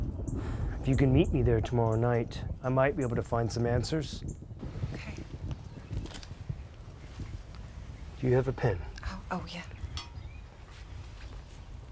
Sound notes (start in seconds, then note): none